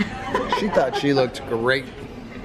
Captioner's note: laughs